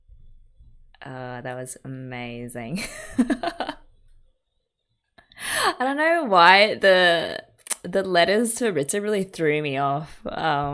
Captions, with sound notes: Oh that was amazing. [laughs] I don't know why the the letters to Ritsu really threw me off.